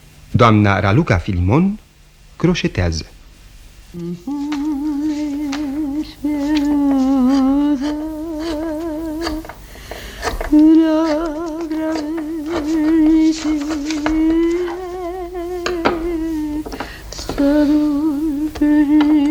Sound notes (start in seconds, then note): 3.7 hums a romance